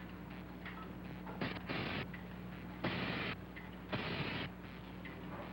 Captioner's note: electricity crackling